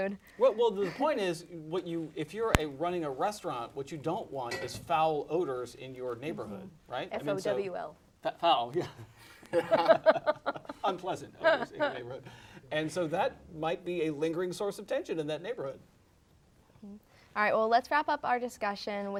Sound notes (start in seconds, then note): 9.4 laughter